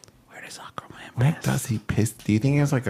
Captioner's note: whispering